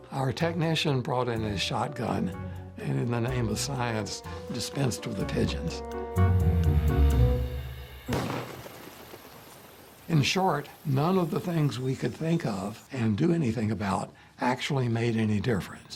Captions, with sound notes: Our technician brought in a shotgun and in the name of science dispensed with the pigeons. (upbeat music) (gunshot blasting) In short, none of the things we could think of and do anything about actually made any difference.